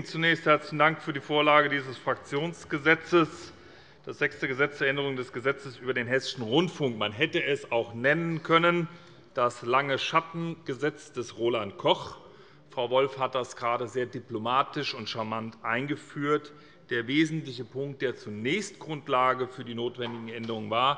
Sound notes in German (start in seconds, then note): none